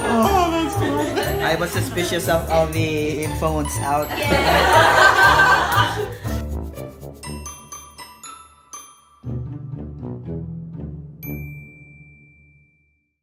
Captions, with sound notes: - I was suspicious on the influence out. (crowd laugh)